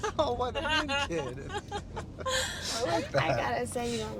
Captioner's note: Alex and Cassidy laughing